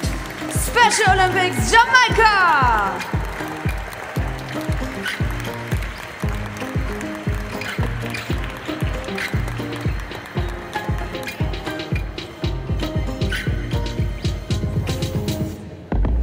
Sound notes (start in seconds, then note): 3.6 applause; 3.6 ♫ Midtempo guitar music ♫